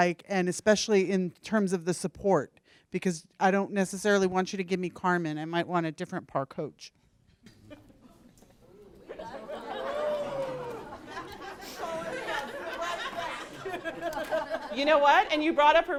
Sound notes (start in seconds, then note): 8.9 laughter